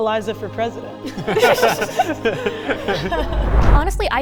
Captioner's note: everyone laughing